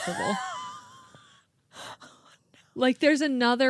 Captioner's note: laughing